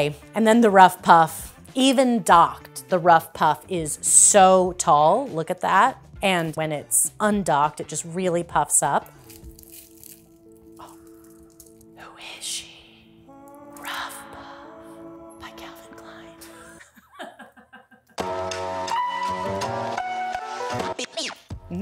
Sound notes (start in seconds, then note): 16.8 giggles; 18.2 jazzy music plays